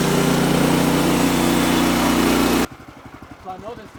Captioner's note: motor rumbling